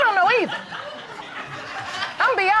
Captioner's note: audience laughing